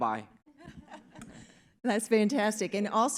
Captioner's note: audience laughs